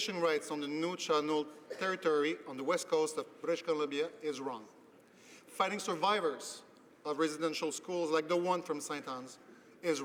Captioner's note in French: voix de l'interprte